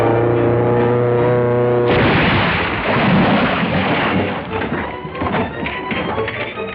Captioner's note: crash